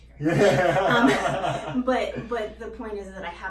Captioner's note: laughing